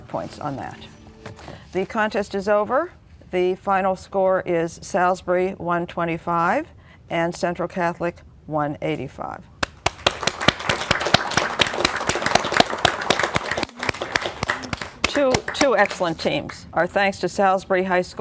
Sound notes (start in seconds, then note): 8.1 applause